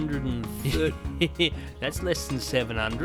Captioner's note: laughing